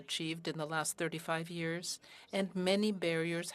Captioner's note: speaking french